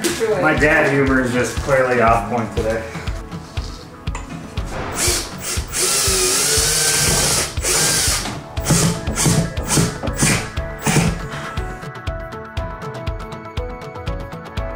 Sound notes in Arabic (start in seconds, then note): 4.8 طنين الحفر; 12.1 موسيقى مبهجة